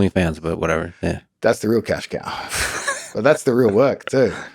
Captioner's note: Lex laughs